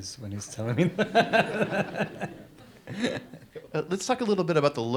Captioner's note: audience laughs